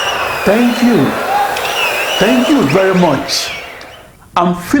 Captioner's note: wild applause and cheering for 22 seconds